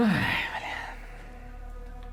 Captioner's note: whispering